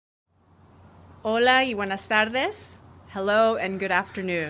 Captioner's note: non-english speech